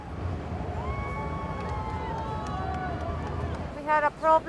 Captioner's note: people cheering